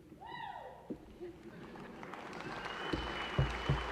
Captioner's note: applause